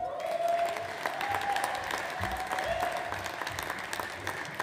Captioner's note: audience applauds